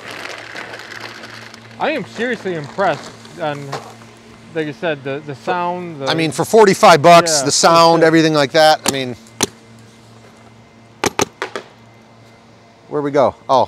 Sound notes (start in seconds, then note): 0.0 paint balls shuffling; 9.9 trigger clicking